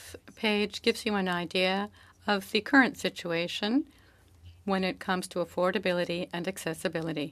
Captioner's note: speaking French